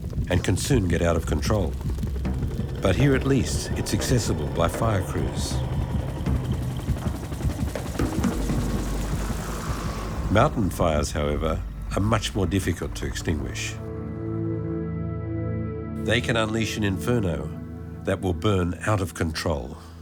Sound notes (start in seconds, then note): 5.8 helicopter whirring